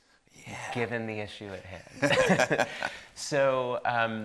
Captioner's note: both laughing